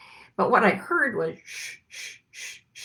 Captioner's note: shushes